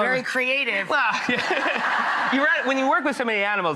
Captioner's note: audience laughing